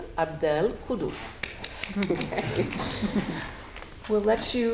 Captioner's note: audience applauding